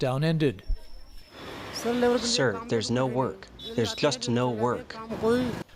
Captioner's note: through translator